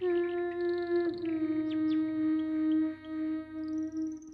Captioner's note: birds chirping